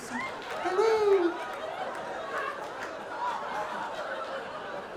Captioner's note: audience laughing